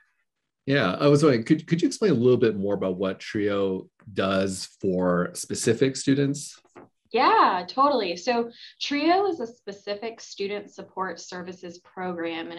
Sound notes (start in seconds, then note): none